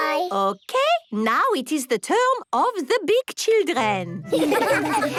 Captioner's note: laughter